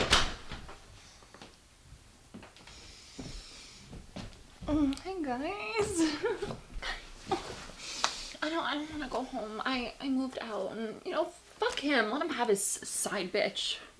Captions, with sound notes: - Hey guys (chuckles) I don't, I don't wanna go home. I, I moved out and, you know, fuck him. Let him have his side bitch.